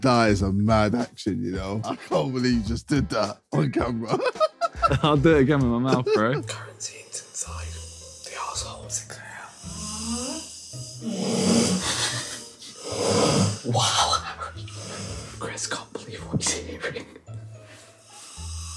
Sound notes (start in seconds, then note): 5.8 laughing; 11.0 snoring loudly